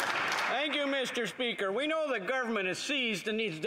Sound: applause

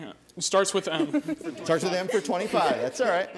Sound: laughing

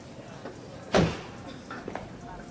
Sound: door slams

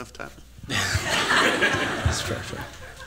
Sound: laughter

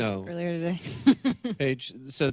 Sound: laughs

